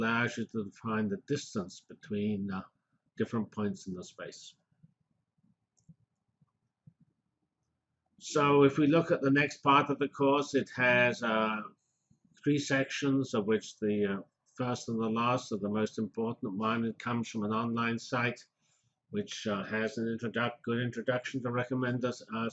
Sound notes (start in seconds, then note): 4.8 pause